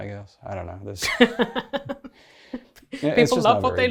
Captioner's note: laughs